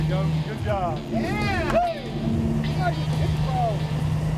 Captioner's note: cheering